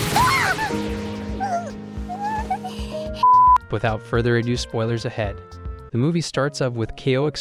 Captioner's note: beep